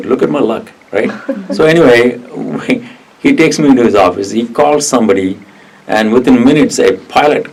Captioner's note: laugh